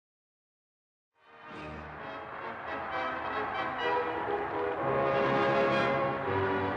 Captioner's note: bright music; crowd cheering